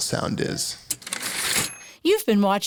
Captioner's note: typewriter ding